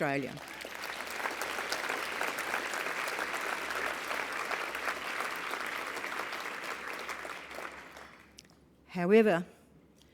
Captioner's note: applause